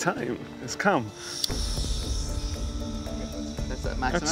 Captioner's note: flame whooshes